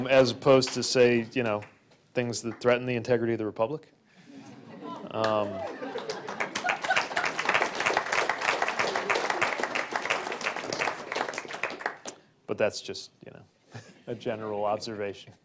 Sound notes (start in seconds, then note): 7.9 applause